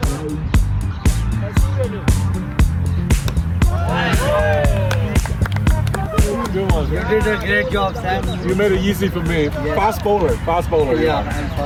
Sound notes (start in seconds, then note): 0.0 men applauding and cheering; 0.3 upbeat music continues; 3.2 men applauding and cheering